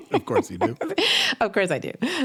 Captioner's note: giggles